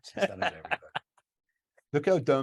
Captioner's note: laughs